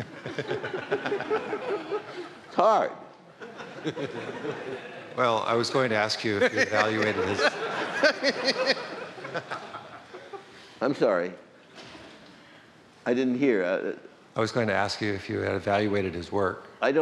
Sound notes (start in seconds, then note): 6.3 laughter